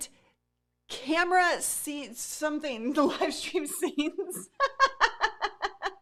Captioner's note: laughing